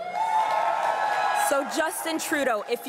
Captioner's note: crowd cheering and applauding